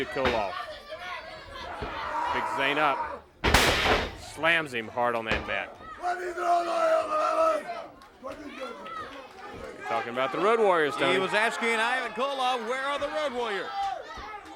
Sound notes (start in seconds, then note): 2.7 crowd chatter; 14.3 crowd chatter